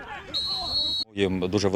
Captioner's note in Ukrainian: свисток